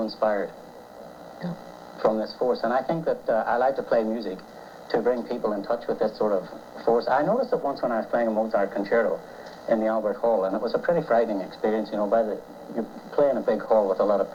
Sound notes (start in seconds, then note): none